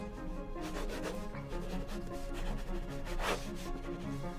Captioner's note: pen scratching